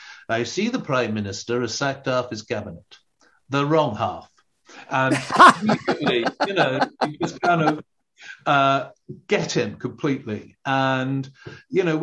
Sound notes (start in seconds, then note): 5.0 laughing